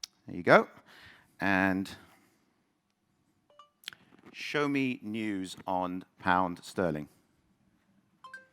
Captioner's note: phone dings